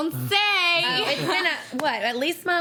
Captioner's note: laughs